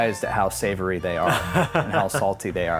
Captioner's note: laughing